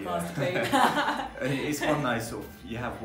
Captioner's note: both laughing